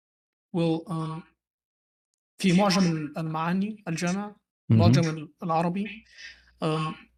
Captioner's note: clears throat